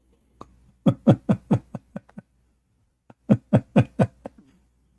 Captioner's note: Ketawa